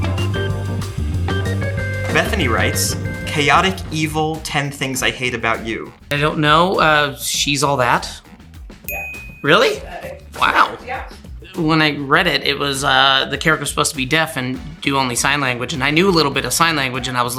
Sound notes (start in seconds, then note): 0.0 cheerful music; 8.8 bell chimes